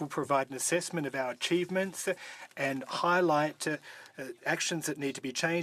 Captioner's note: speaking French